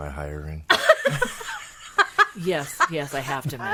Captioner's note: laughing